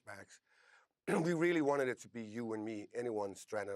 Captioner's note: clearing throat